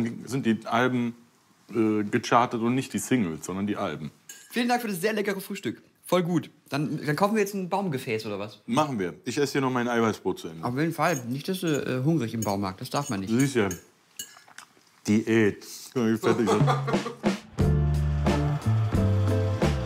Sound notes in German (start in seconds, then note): 16.2 lacht; 16.2 Entspannte Musik